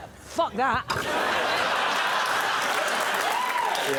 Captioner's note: laughter